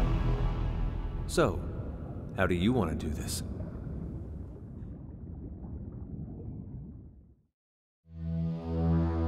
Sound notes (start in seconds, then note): 4.5 water bubbling